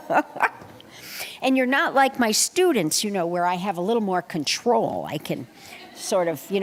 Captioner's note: laughter; laughter